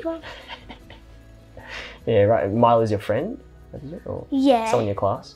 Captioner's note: laughs